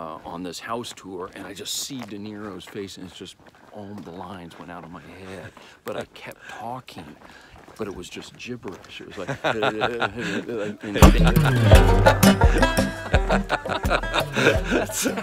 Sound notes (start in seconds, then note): 11.0 both laughing; 12.3 fun banjo music